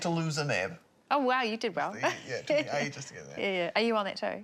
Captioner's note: laughs